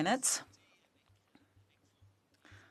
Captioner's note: speaking French